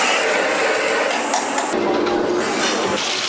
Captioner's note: sizzling